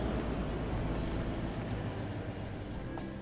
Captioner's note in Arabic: يبطئ المحرك حتى يتوقف